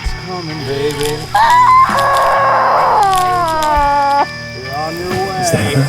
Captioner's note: Addison wails